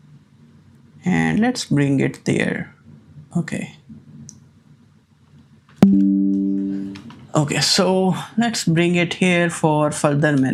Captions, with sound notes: and let's bring it there. Okay. [notification sound] Okay, so let's bring it here for further